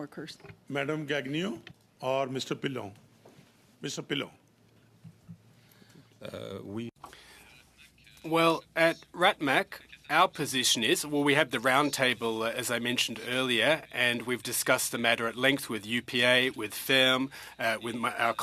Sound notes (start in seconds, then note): 14.5 speaking french